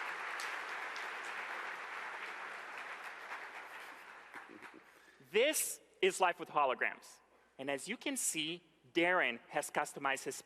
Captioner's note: applause